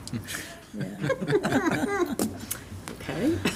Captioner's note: laughing